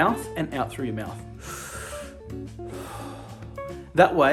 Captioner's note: breathes in and out